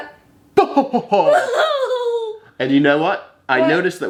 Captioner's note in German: beide lachen